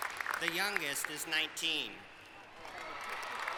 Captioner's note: applause